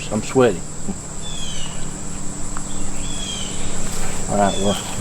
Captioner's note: bird screeches